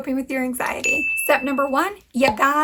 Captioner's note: bell dings